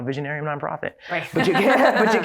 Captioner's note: laughter